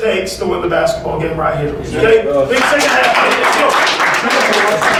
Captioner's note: clapping